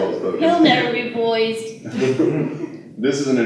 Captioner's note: laughter